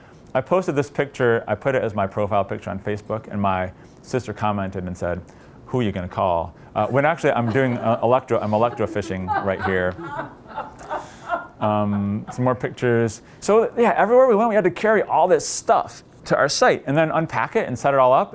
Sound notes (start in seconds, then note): 9.9 laughter